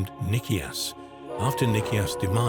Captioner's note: wolf howling